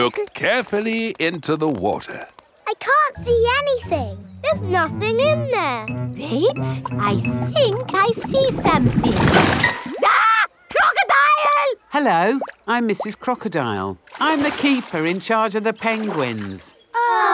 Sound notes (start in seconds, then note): 10.0 screams